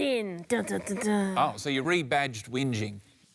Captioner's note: hums dramatically